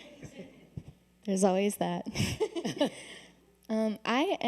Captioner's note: laughter